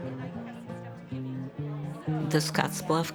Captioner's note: group chattering